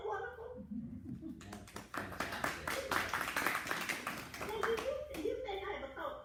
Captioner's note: clapping